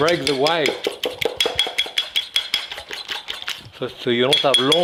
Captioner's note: fork clinking